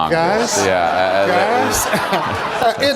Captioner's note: laughter